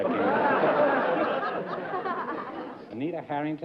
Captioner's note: laughter